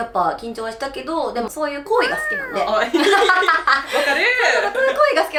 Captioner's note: laughs